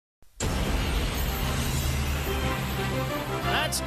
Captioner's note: plane engine roaring